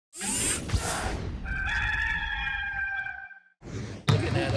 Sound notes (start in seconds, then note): 0.2 logo whooshing; 1.4 rooster crows